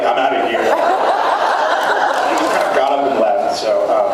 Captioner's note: laughs